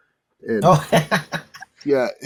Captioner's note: laughing